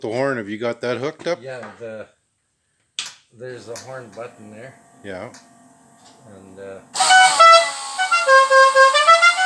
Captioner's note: Dukes of Hazzard horn